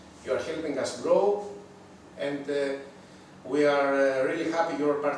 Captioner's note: none